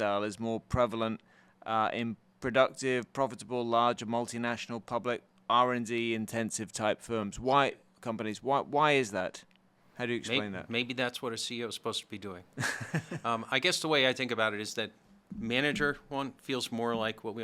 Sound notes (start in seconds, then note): 12.6 laughs